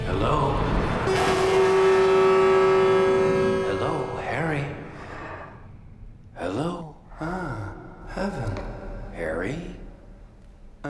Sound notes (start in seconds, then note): 0.9 horn honking